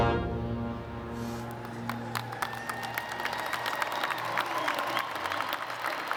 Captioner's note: applause